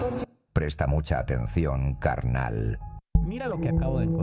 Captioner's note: foreign language